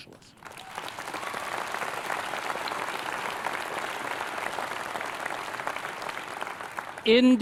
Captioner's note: applause